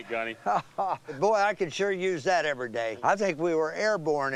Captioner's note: laughs